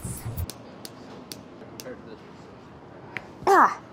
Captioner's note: snipping